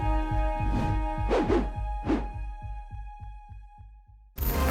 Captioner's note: swooshing